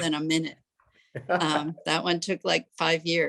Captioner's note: chuckles